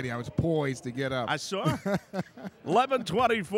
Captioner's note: laughing